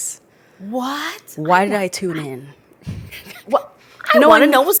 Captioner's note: laughs